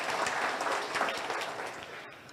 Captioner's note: audience cheers